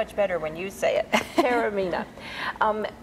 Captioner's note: laughs